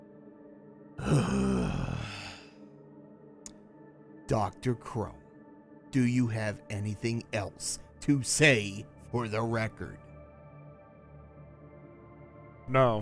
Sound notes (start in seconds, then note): 3.7 sighs heavily